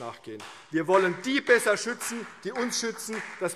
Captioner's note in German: Beifall CDU und BÜNDNIS 90/DIE GRÜNEN